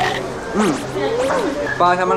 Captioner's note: Mmmm!